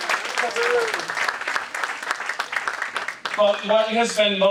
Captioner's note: audience applauding